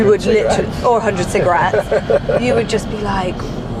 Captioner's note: laughing